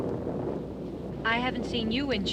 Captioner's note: thunder rumbling